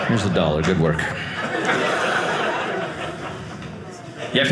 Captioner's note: audience laughing